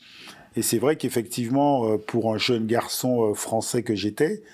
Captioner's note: non-english speech